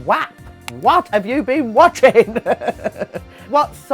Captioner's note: chuckles